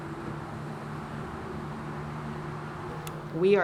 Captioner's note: vehicles whooshing